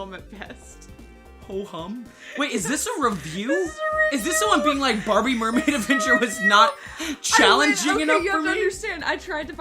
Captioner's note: gibberish and giggling